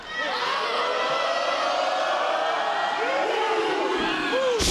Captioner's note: crowd cheering